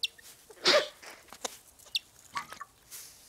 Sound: sneezing

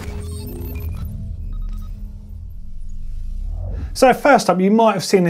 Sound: digital beeping

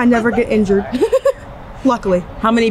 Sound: laughs

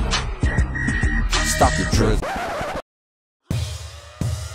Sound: record scratch

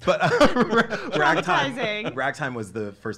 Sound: laughter

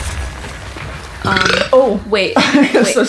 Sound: burps

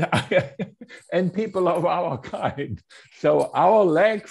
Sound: laughs

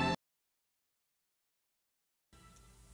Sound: silence continues

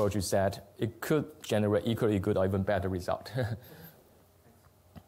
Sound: laughs

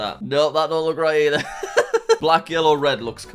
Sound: laughing

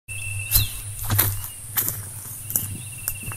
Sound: footsteps

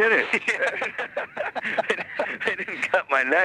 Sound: both laughing

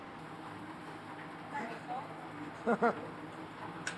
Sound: speaking Greek; chuckles

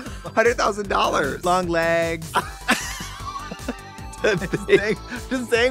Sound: blonde women laughing

